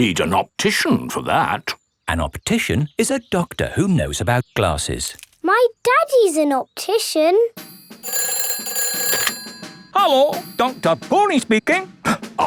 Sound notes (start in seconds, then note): 7.6 ringing